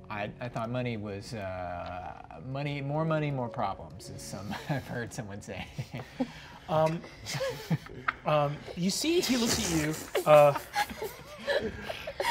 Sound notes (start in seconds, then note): 7.3 players laughing